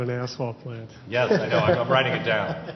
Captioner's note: laughs